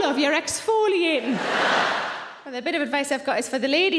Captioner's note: audience laughing